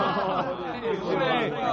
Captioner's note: all laughing